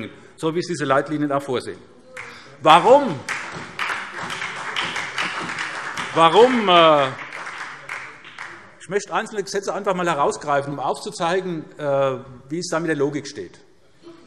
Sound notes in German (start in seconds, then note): 2.2 Beifall SPD